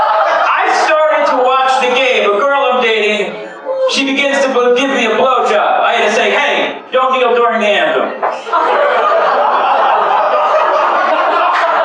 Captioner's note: laughter